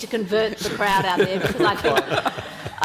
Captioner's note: panelists laughing